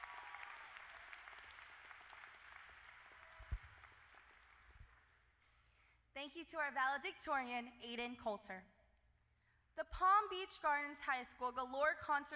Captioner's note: applause